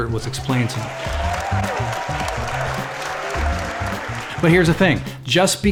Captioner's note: crowd cheering